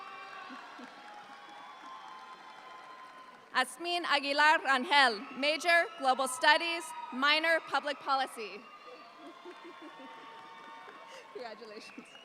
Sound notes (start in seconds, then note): 0.0 audience applauds; 8.8 audience applauds; 9.1 laughing